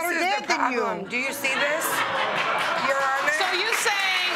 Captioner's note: laughter